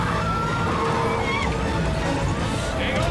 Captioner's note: screams